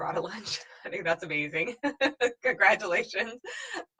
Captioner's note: laughing